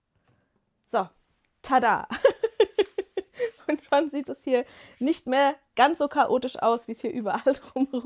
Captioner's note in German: gelächter